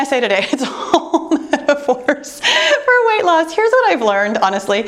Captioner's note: laughing